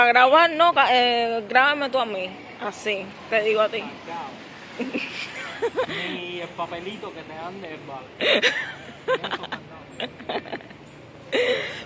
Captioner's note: laughs